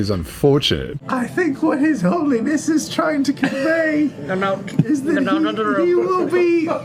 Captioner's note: in weird deep old man voice